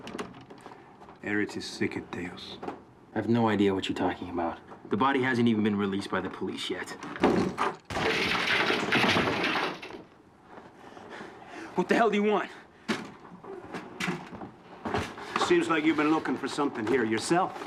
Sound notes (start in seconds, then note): 1.1 speaks latin